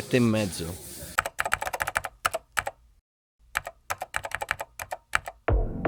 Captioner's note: keyboard sound